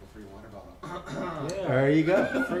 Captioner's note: coughs